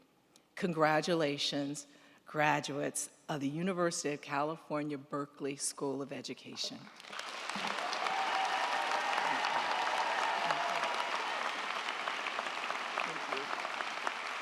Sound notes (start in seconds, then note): 6.8 crowd clapping; 7.0 crowd cheering